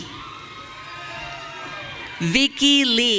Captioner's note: audience cheering